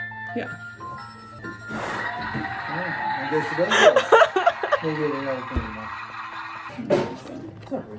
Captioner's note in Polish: śmiech